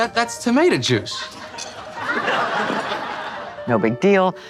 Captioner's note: audience laughing